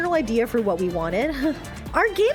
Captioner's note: nervous breath